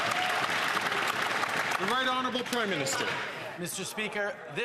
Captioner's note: some Applause